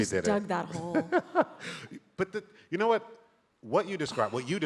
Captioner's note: laughs